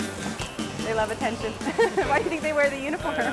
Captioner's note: laughs